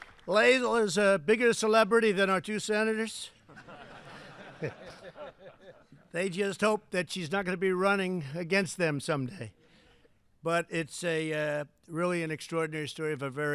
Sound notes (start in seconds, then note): 3.4 laughter